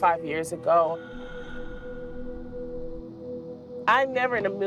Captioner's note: eerie breathing